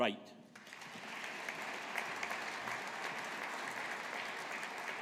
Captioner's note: audience applauding